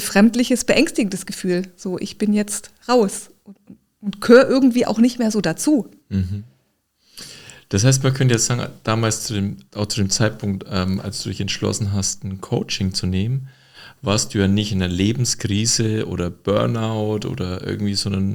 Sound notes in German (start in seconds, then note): 6.1 räuspern; 6.1 schnauben